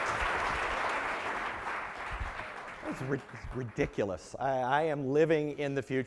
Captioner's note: applause